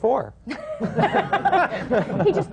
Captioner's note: laughter